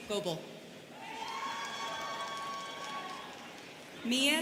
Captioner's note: students cheering